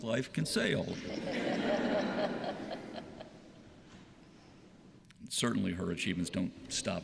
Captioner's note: laughter